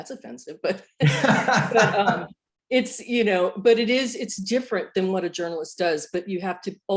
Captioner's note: laughter